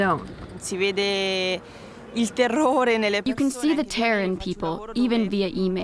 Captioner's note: through translator